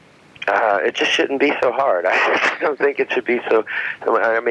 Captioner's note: laughs